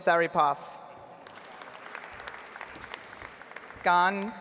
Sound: audience applauds

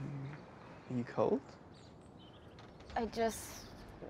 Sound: none

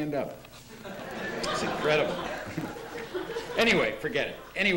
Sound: laughter

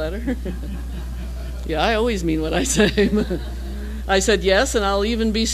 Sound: laugh

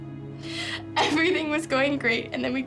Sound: sobbing

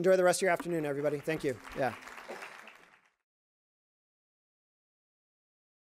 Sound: crowd applauds

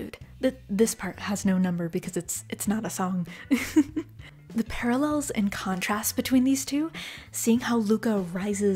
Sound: chuckle

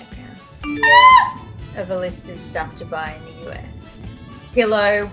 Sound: yells

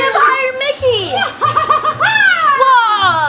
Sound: cartoon laughs

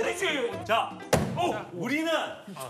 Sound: bang

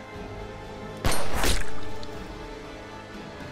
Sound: gunshot

